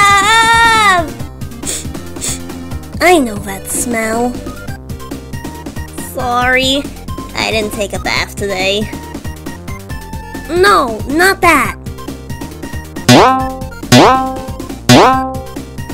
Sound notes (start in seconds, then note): 1.6 sniff, sniff